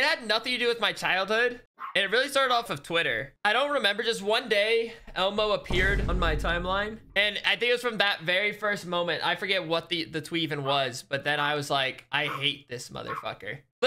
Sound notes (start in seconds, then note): 5.6 boom